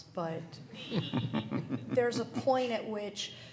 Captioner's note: all laughing